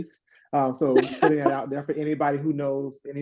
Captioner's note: laugh